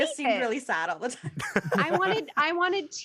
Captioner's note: laughter